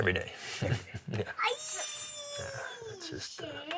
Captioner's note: child squeals